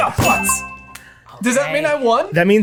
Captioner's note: bell dings